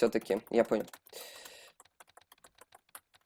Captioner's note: inhale of regret